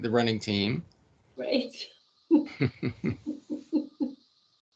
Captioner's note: laughing